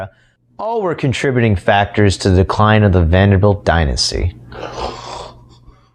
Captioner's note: snores loudly